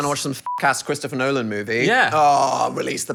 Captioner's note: beep